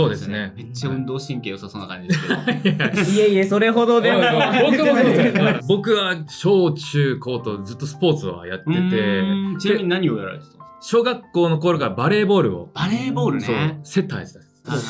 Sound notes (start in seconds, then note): 2.1 laugh